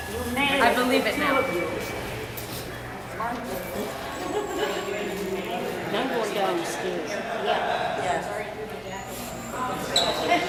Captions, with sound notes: I believe it now. [background conversations]